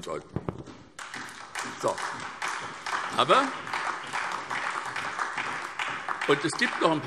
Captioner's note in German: Beifall SPD und DIE LINKE